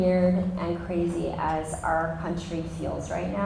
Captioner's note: none